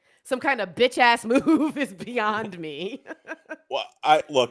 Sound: laughs

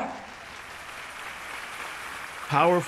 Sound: applauds

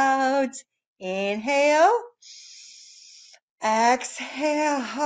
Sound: breaths in

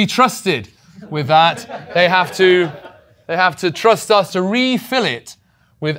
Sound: laugh

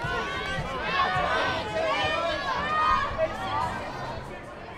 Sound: crowd screams

